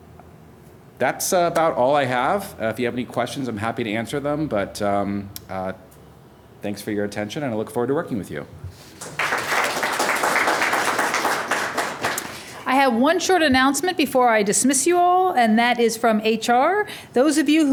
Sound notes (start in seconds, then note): 8.9 applause